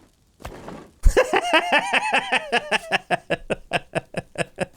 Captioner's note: laughter